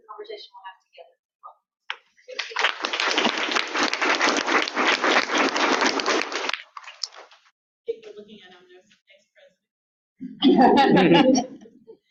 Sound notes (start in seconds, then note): 2.2 audience clapping